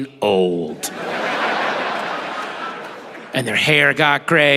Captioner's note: audience laughing